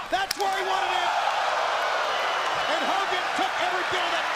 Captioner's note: crowd cheering